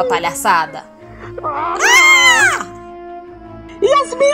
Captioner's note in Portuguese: tapas e gritaria